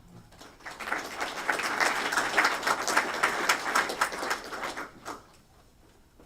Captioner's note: applause